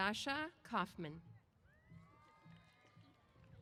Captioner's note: applause & Cheers